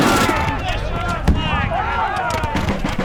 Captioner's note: cannon fires; drum beats